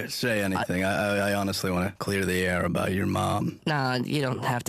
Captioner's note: none